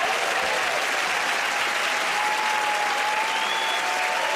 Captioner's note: cheering and applause